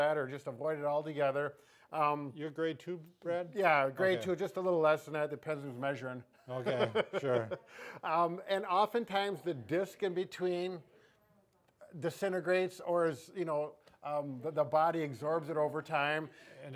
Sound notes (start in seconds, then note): 6.5 chuckles